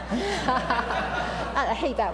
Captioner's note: laughter